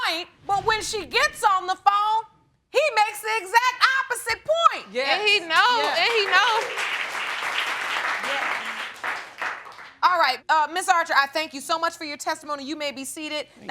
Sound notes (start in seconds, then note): 5.6 audience applauding